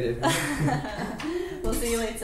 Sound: awkward laughing

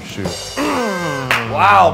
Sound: cymbals crashing; party favor blaring; man groaning

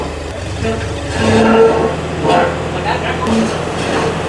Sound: metal scraping; engine whirring

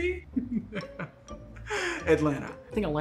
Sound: laughs

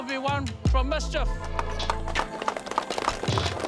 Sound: crowd claps

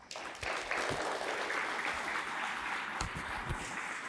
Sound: applause

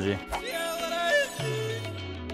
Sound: four rings at once

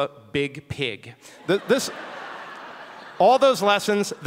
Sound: audience laughing

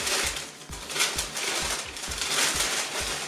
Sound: rustling

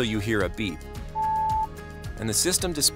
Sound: car beeps

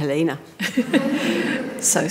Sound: audience laughing

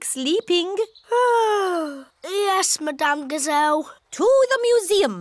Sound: yawns

